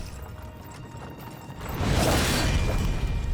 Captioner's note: clanking